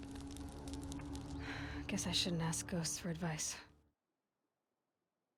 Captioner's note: sigh